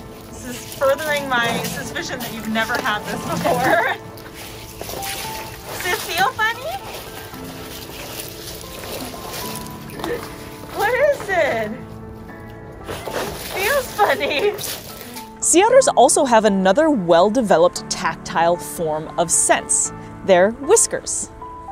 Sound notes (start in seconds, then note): 0.0 background music; 0.0 ice shuffling noise; 4.2 background music; 4.2 ice shuffling noise; 7.2 background music; 7.2 ice shuffling noise; 12.1 background music; 12.8 ice shuffling noise